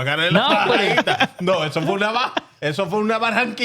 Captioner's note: speaking Spanish